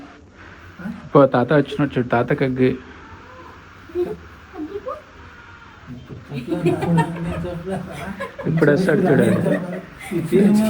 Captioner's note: laughs